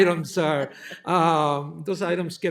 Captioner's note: laughter